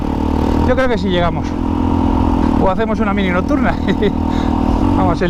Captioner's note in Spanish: risas